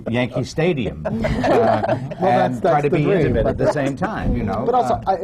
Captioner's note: laughter